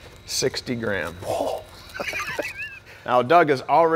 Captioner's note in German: lacht